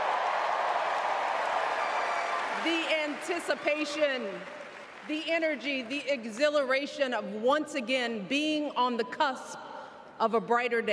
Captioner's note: cheers and applause